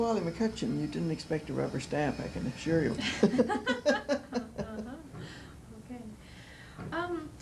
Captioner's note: laughter